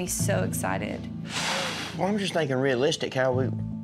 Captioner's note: exhales